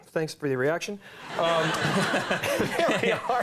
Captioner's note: crowd laughing